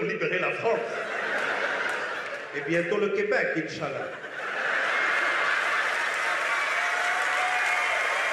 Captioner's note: speaking French; laughter; speaking French; laughter; applause